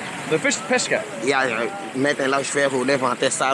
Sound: speaking Portuguese

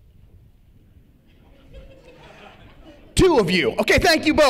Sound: laughter

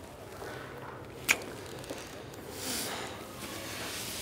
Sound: kiss smacks

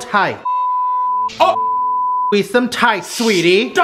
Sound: beep

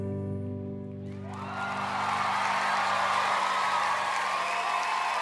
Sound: crowd cheering

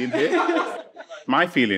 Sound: participants laughing

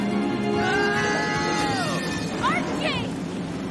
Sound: screaming

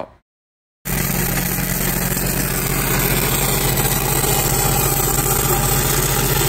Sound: engine rumbling; spark buzzing

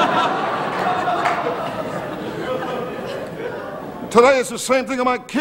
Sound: audience laughing

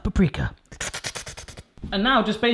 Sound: slurping sounds

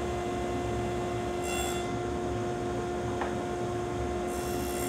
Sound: saw zings

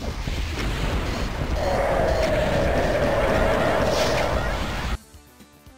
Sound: arrrrrrrrrrgh!

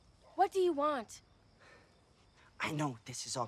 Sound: none

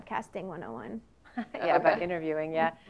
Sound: laugh

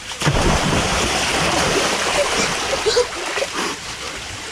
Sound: water splashes

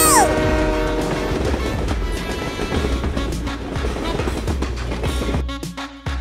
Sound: train sounds and music

